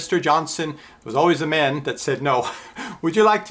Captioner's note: laughs